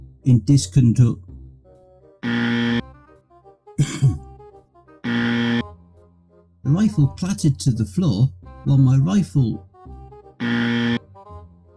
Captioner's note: clears Throat